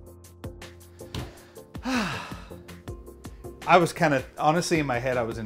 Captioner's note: sighs